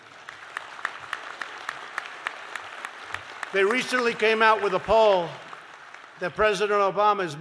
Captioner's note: applause